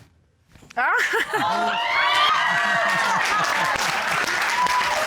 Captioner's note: cheers and applause